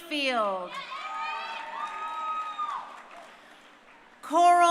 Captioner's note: crowd cheering